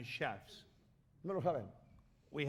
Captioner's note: speaking spanish